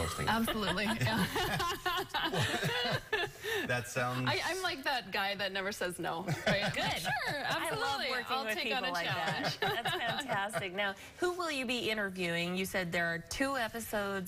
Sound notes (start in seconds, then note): 8.8 laughter